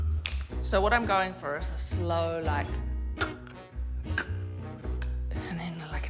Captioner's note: imitates slow creaking